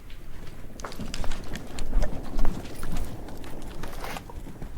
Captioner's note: stones clattering